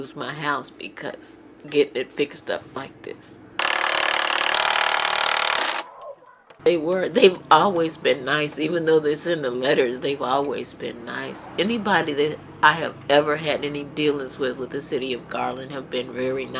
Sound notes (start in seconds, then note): 3.6 drill